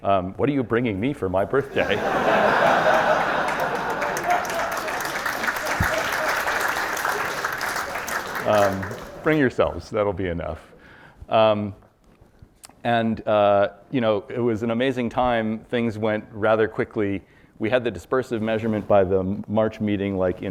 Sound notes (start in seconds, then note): 1.5 audience laughs and applauds